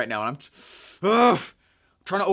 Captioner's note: groaning